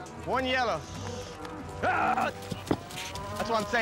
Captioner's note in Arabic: ضربات حافر